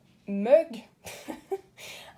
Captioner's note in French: rires